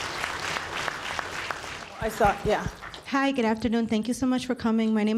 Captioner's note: applause